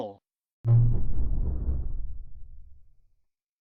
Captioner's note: Supernatural 3D Shadow Windows XP Shutdown Sound